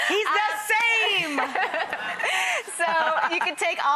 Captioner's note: laughing